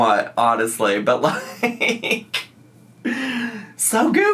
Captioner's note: laughs